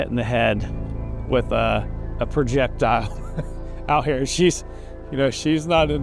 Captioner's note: laughs